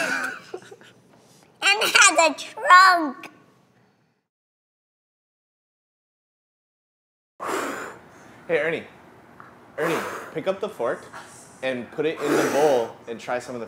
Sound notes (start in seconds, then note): 0.0 laughs; 7.4 blows